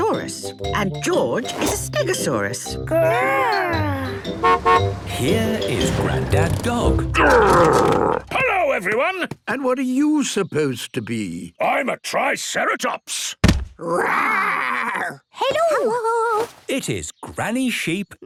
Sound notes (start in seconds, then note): 3.7 horn honking; 13.4 thudding